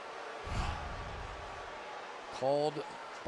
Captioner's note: swoosh